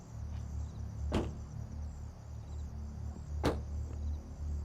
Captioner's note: soft suspenseful music; car doors thud